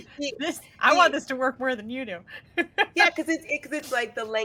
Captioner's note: chuckles